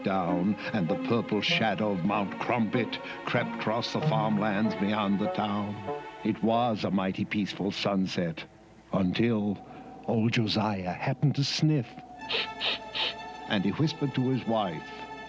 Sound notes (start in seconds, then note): 12.2 sniffing